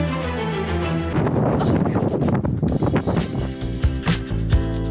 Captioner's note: wind blowing; gentle music